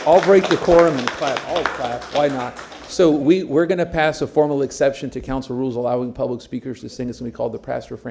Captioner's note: applause